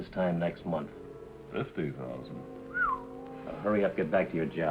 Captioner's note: whistles